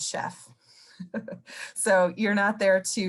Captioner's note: laughing